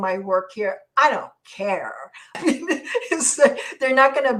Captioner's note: laughs